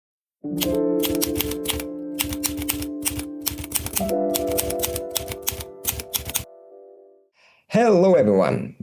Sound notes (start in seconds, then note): 3.3 typewriter keys punching; 3.6 delicate piano notes playing